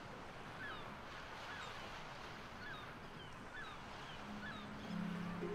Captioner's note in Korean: 갈매기 소리